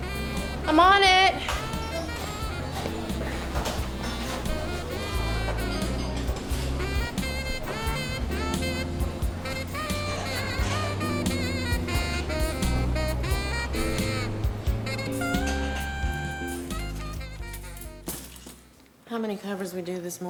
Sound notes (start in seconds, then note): 8.2 bluesy piano music; 8.2 diner sounds; 12.2 bluesy piano music